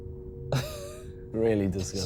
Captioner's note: both laughing